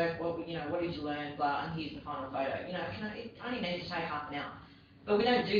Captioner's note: audio distorts